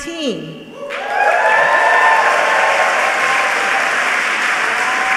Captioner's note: audience applauding